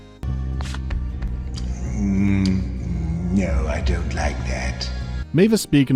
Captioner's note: lick